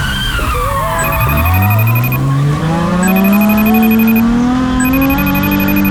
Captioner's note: phone ringing, 350z drift sound & music playing; phone ringing & 350z drift sound